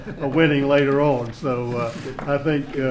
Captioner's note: laughter